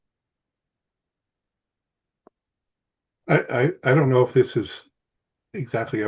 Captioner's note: laughing